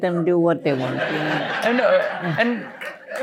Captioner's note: laughter